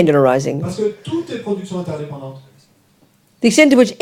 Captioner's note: speaking in French